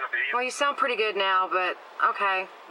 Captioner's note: on phone